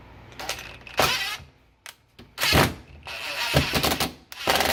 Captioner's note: drill motor buzzing